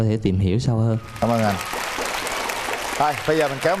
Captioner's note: applause